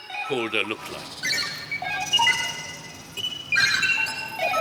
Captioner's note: robotic sounds